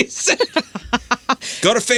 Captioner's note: laughing